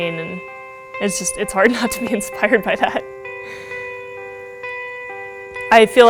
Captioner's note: laughing